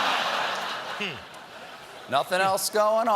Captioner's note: laughter